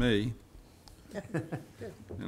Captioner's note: laughter